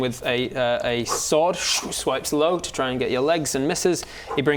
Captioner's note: swoosh